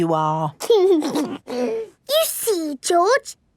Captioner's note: giggles